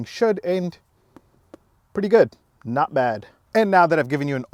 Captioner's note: taps seat